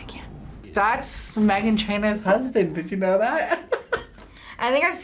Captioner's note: laughs